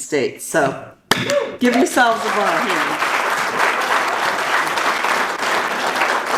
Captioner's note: audience applauds